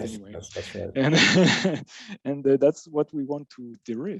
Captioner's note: laughs